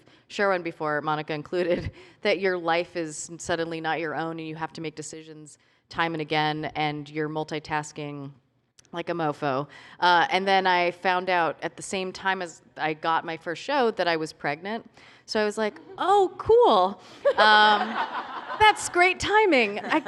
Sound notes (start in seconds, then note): 17.2 laughter